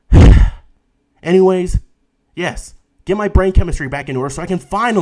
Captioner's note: sigh